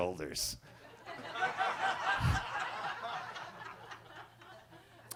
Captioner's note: attendees laughing